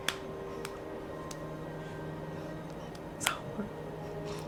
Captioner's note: hand punching